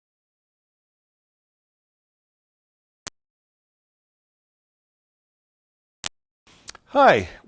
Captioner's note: silence